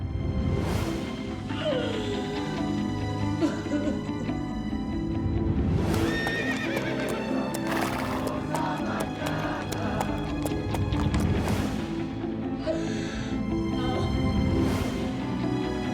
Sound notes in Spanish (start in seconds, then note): 4.7 llanto de sara; 5.8 relinchos y resoplidos